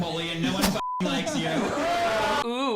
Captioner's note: beeps; audience jeering